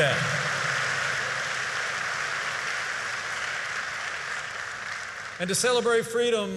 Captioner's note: applause